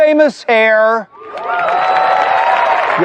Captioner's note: cheering and applause